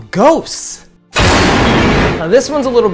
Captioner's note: thunder cracks